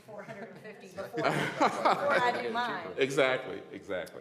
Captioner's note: laughter